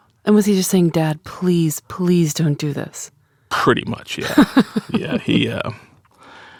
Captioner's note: laughs